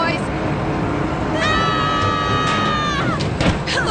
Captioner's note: all yelling